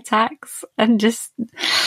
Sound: inhales

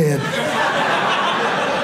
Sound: audience laughing

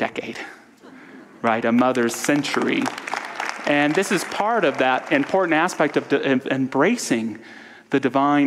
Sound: audience applause

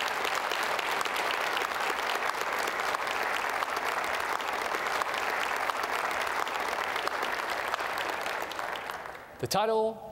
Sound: applause

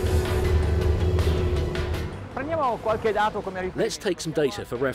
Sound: boat engines hum

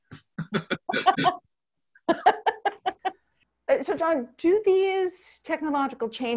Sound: laughter

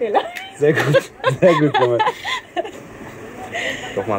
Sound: laughs

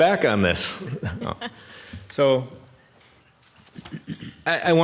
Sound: laughs

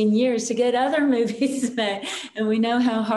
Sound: chuckles

